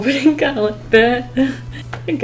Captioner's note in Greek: Νευρικό γέλιο